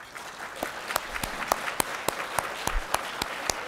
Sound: applause

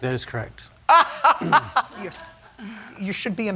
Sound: laughing

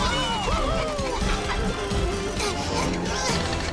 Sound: grunting

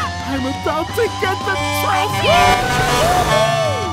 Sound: truck horn honking

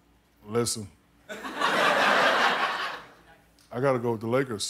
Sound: crowd reacts

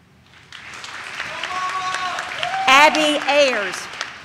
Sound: audience cheers

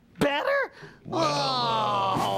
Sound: groans

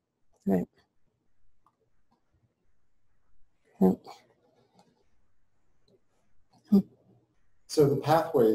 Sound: pause

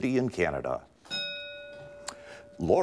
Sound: ding

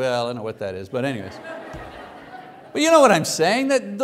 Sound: congregation laughs

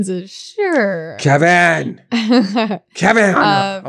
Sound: laughs; laughing

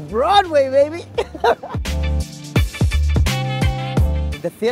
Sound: laughs

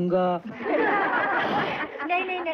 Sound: laughing

